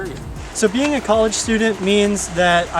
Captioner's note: running water